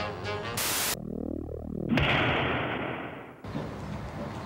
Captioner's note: bang